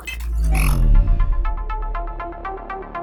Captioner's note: glitch Transition